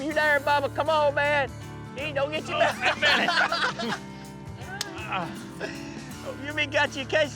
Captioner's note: all laughing